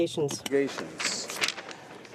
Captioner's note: speaking French